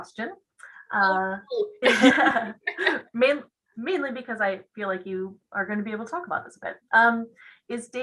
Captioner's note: laughs